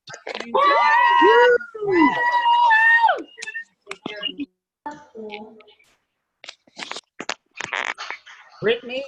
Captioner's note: cheering